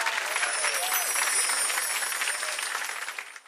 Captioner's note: bell chimes